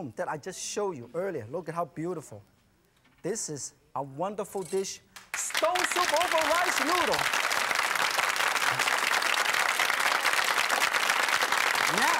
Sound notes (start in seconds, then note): 5.1 audience claps